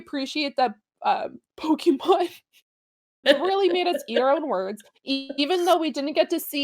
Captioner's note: chuckle